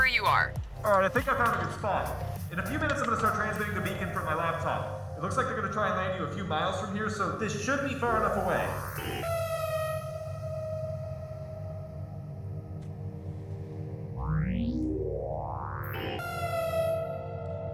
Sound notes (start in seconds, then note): 9.7 warning claxon; 13.3 servos starting up; 15.8 another warning claxon